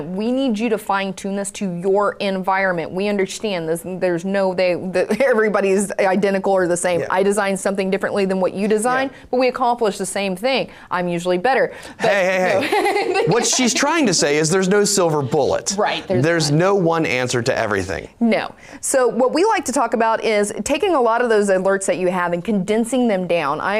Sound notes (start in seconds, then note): 11.9 laughing